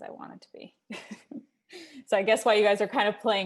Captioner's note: laughing